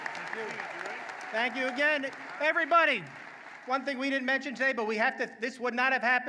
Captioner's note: applause